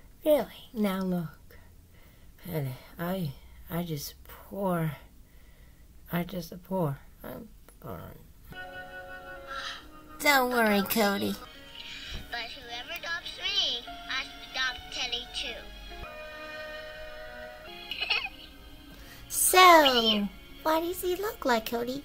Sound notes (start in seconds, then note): 9.4 Cody Sighs; 17.8 Penny Giggles